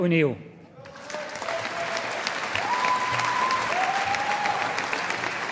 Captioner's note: audience applauding